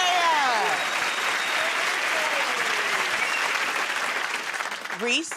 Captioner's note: cheers and applause